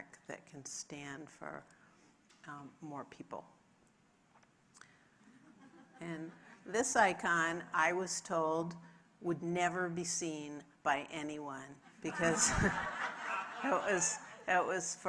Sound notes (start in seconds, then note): 5.7 audience laughs; 12.0 audience laughing drowns out speaker